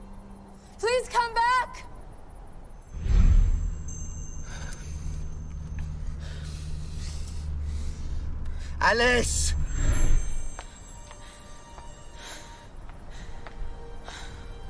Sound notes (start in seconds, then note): 4.4 sighs